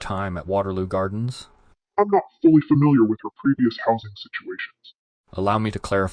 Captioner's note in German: verzerrt